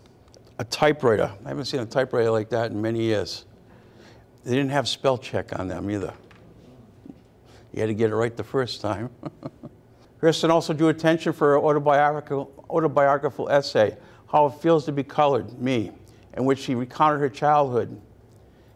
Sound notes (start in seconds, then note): 3.4 audience chuckles; 8.9 chuckles